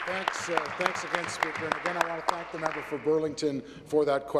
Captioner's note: applause